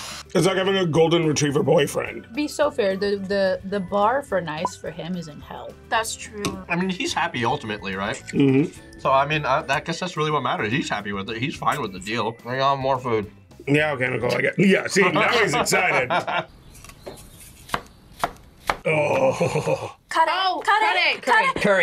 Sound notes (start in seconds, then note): 14.2 laughs